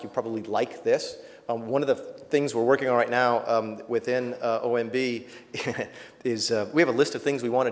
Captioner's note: chuckles